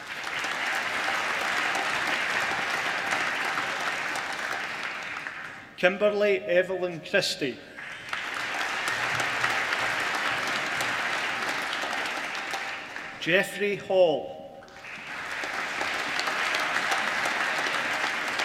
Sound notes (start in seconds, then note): 0.0 applause; 7.7 applause